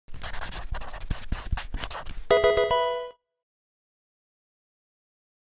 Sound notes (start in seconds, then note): 0.1 marker writing; 2.3 Pokemon game sound